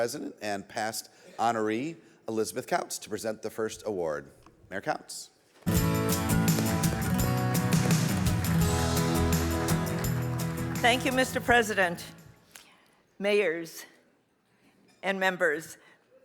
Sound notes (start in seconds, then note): 5.6 audience applauds; 5.6 bright music